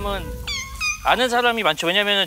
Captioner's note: crying